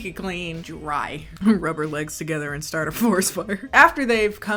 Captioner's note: laughing